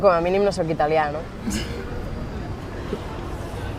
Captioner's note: laughs